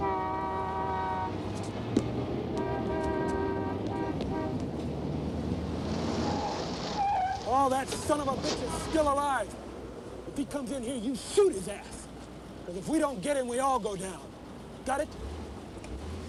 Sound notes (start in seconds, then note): 0.0 car horns honking; 2.8 car engines revving; 3.9 car horns honking; 6.5 tires screeching; 16.1 car engines revving